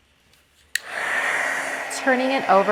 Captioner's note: heat tool blowing